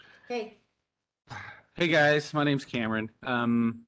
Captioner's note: sighs